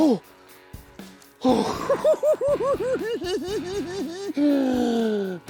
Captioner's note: laughs